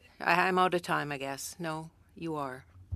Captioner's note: speaking french